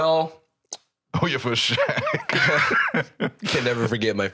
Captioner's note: laughing